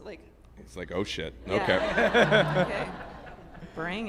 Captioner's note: group laughs